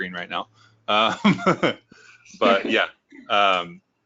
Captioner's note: laughing